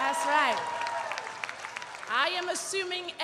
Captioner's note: audience cheering and applauding